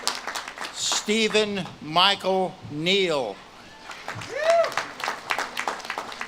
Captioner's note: audience claps and cheers